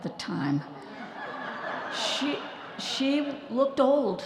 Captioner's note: audience laughing